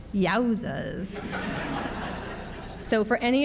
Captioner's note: audience laughs